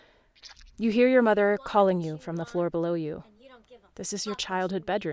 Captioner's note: MOTHER's voice in the distance